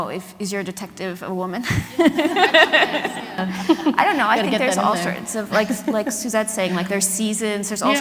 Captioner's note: laughter